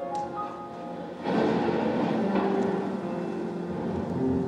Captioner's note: thunderclap